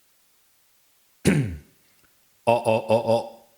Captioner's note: clears throat